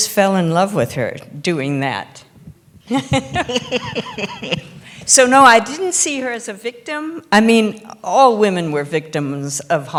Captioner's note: laughter